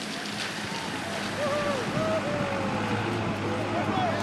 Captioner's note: men cheer